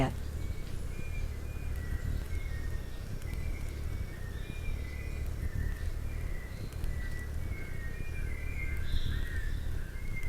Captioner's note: birds chirping and singing